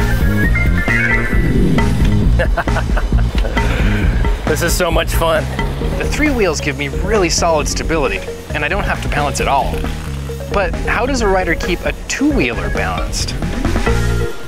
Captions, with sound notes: (chuckles) This is so much fun. The three wheels give me really solid stability, and I don't have to balance at all. But how does a rider keep a two-wheeler balanced?